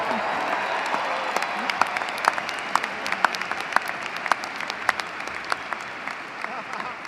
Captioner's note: applause